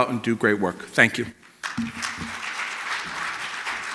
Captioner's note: applause